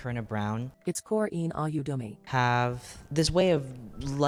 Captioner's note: robot voice